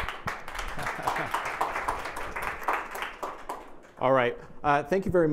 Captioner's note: audience clapping